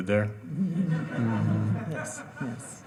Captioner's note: audience laughing